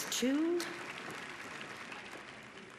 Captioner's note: applause